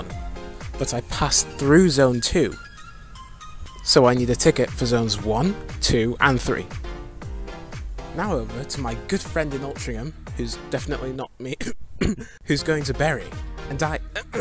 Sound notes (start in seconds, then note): 12.0 coughs